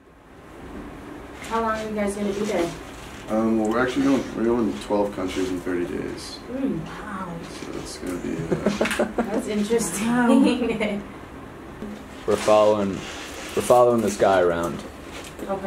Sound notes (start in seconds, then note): 8.2 laughs